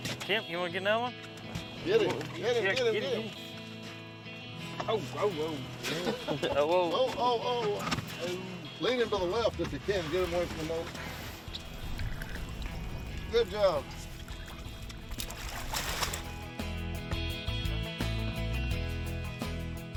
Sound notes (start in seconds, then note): 11.8 water splashing; 14.8 guitar music playing; 14.8 water splashing